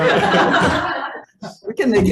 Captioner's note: all laughing